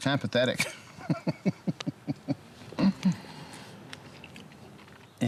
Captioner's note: laughs